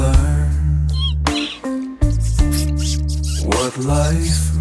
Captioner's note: mouse squeaks fearfully